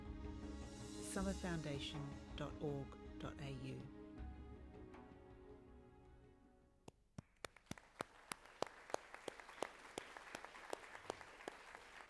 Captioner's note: applause